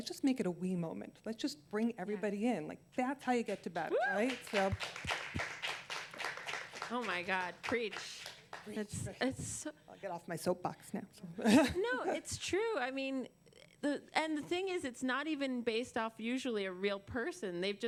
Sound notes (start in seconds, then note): 4.1 applause; 11.4 laughter